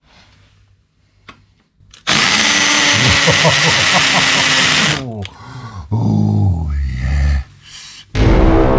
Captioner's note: loud Drill Noise